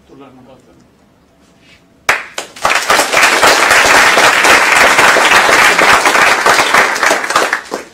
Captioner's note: applause